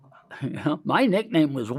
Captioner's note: laughs